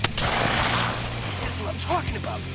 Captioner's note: gunshot